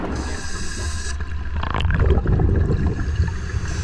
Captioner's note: bubbles bubbling; audible breathing continues